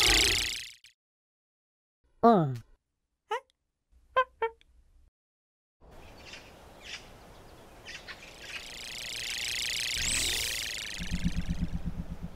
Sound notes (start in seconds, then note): 2.4 alien talk; 6.9 spaceship noise